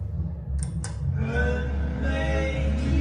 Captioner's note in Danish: kontakt klik